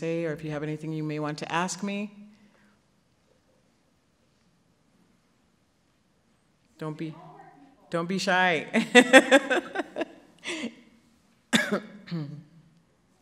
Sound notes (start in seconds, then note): 8.8 laughs